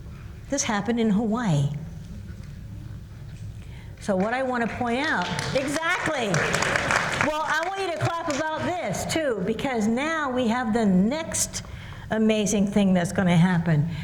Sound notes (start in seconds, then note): 5.1 applause